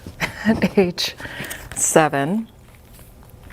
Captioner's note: laughs